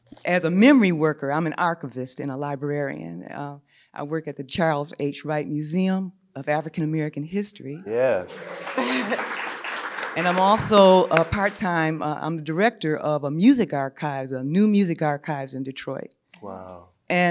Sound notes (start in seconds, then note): 7.9 audience applauding